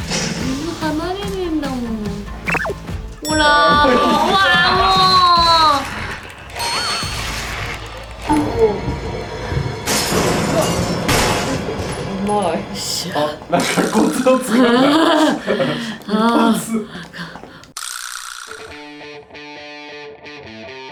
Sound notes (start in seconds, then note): 15.3 sigh